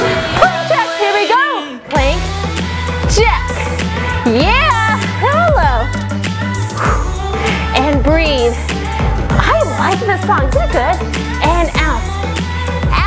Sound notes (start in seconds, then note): 6.5 exhales